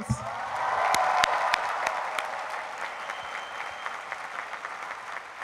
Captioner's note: cheering